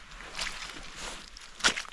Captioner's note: squelch